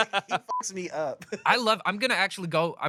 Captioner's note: everyone laughs; beep